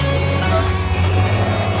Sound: squeaking

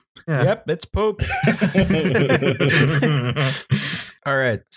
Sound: laughter

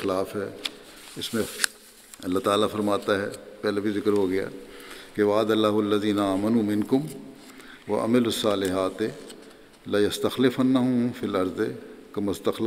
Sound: Arabic

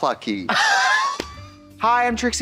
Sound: Katya puffs and slaps

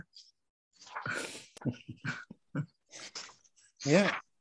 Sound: laughing

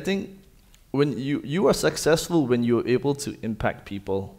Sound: none

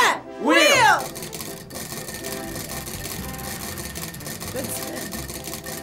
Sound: wheel rattling

